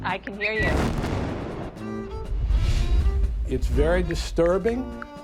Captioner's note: bomb exploding